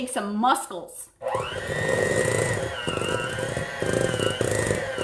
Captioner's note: mixer whirring